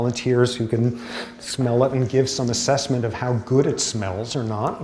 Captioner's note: sniff